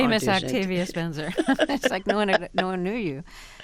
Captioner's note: laughter